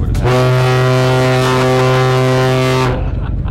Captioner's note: loud horn